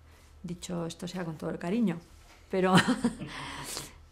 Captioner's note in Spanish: risas